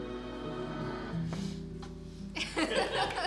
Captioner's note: tears up